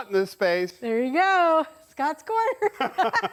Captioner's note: laughs